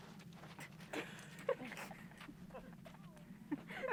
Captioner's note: laughing